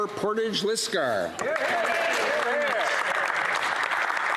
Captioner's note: applause